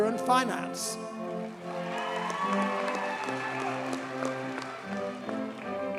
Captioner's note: audience cheers and applauds